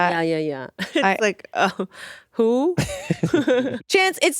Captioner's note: laughs